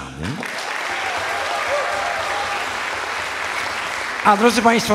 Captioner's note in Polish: aplauz